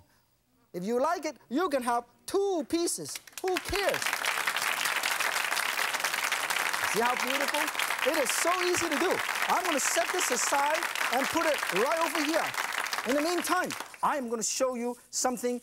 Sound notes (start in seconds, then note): 3.2 audience applauds